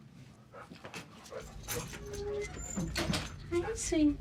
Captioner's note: dog panting